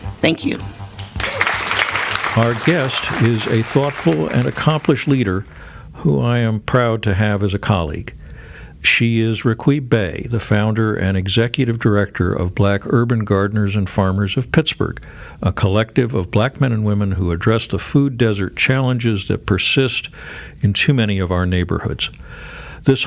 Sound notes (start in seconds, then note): 1.0 audience applauding